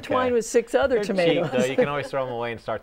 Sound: laughs

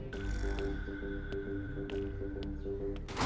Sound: footsteps

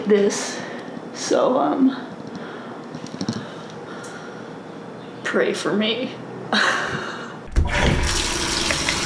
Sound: laughs

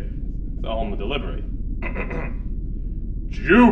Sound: clears throat

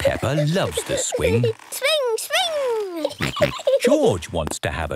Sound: giggling and snorting

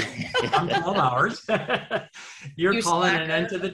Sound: laughs

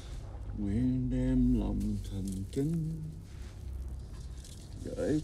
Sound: Dao chanting in Vietnamese

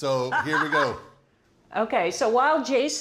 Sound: laughs

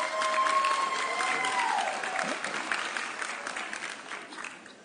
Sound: audience cheering

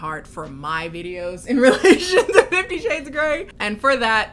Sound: laughs

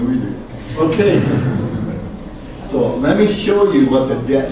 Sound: group laughs

